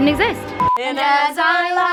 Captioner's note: beep